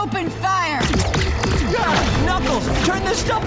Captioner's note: Sonic shouts; lasers blasting